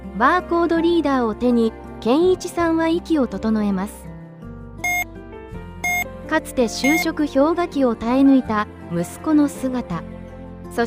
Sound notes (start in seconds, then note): 1.9 barcode scanning sound